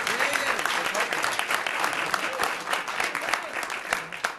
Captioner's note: cheers and applause